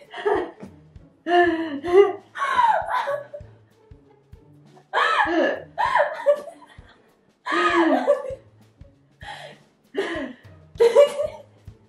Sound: both laughing

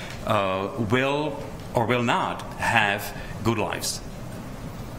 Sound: none

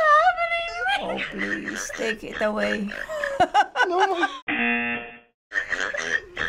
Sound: buzzer

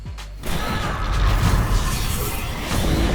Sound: haunting music playing; crackling

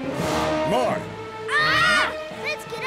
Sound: screaming

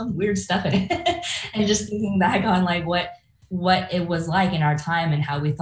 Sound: laughs

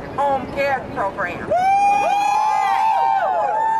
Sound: crowd cheers

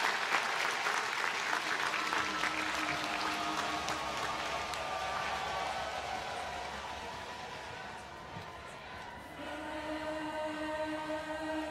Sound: applause

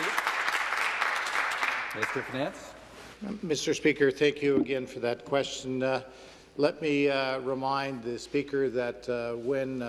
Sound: some Applause

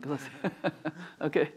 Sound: chuckling

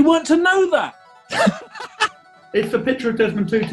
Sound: laughing

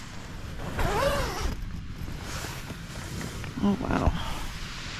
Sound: zip

